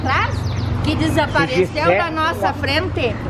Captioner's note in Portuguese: discutindo em português hahahaha